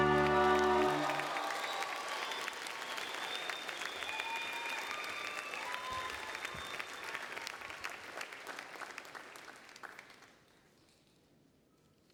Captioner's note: applause and Cheering